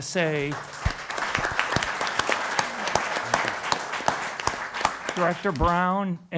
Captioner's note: applause